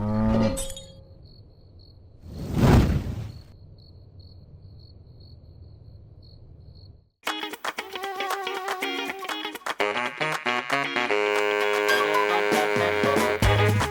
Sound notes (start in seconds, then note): 0.1 cow mooing; 2.2 whooshing sound; 3.2 crickets chirping; 8.3 lively jazz music